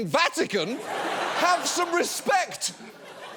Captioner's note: audience laughs